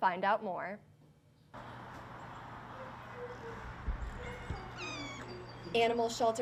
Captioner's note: cat meowing; dog barking